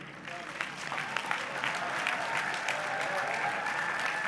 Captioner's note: applause